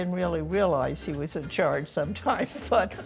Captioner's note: laughing